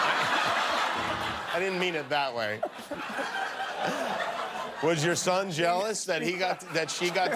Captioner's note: laughter